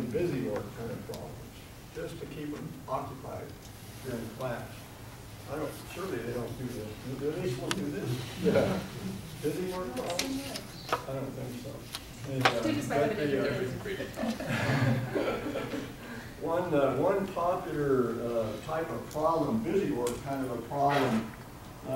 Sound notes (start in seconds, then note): 8.4 audience giggling; 13.8 audience laughing